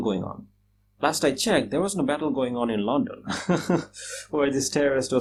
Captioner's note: laughs